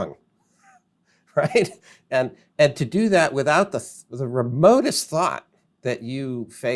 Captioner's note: laughs